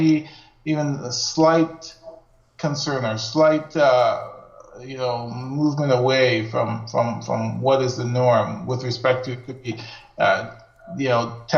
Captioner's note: audio skips